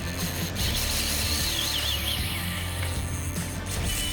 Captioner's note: fishing rod reels